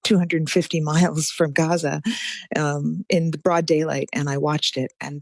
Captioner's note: laughs